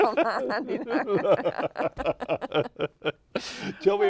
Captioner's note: laughter